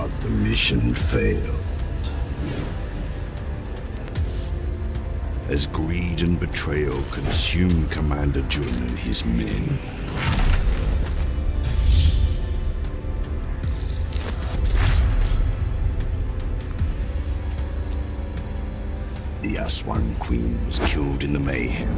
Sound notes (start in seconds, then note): 10.3 dramatic music; 11.9 whooshing; 13.7 chains rattling